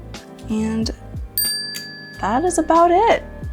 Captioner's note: bell dings